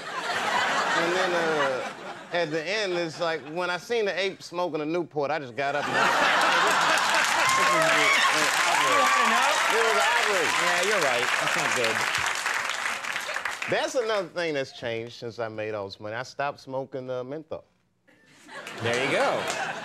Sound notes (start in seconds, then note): 0.0 audience laughing; 5.7 audience laughing